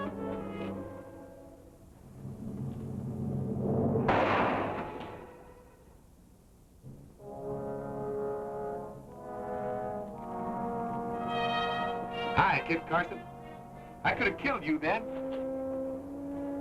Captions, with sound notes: (gun fires) - Hi, Kit Carson, I could have killed you then.